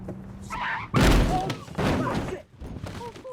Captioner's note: frenos gritando